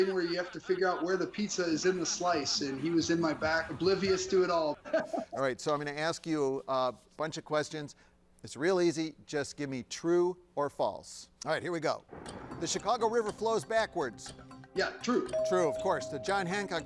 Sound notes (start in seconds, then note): 4.6 laughs